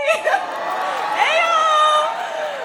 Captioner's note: cheering